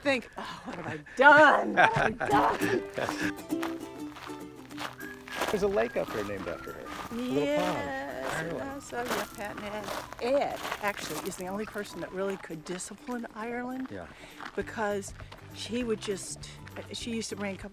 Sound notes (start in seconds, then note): 1.5 laughing; 3.7 happy ukulele music